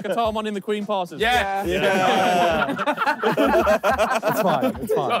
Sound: all laughing

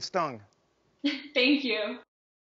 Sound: laughing

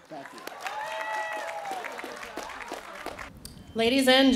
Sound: applause

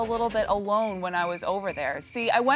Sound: crickets chirping

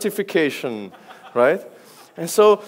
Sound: audience laughs

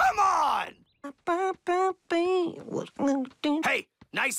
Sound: humming

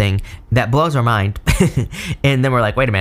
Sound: laughs

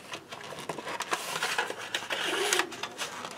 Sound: paper and cardboard rustling

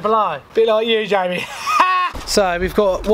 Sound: laughs

